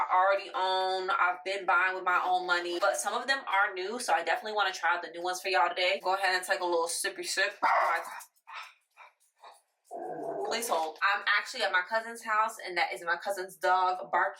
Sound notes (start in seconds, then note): 7.6 barking